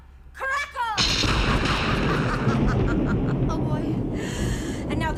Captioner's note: evil laughing